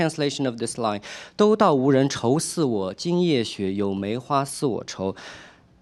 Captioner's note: speaking chinese